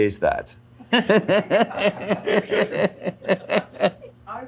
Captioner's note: Alan and crew laugh